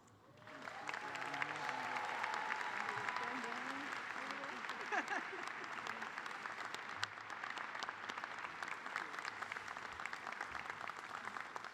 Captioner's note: cheers and applause